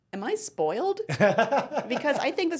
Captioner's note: laughing